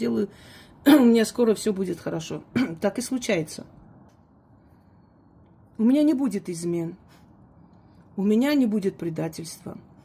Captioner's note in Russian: откашливается